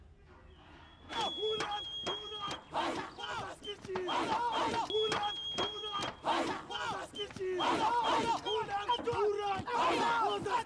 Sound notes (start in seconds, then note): 1.5 chanting in Xhosa